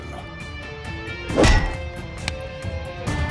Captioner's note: Hitting sound